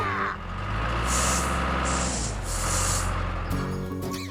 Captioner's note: engine Running